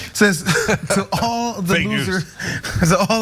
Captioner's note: laugh